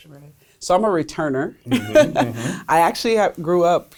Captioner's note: laughs